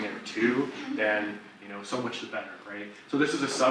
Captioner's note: audience laughs